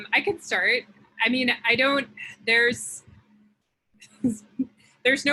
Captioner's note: chuckle